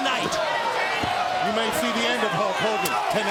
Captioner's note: crowd chatter